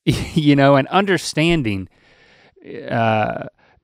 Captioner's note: chuckles